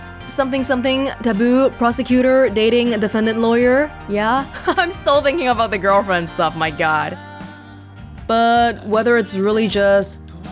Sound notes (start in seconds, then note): 4.3 chuckles